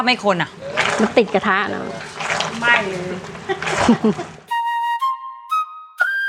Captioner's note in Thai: เสียงหัวเรา